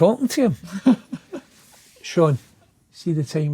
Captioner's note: laughing